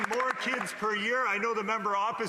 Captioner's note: applause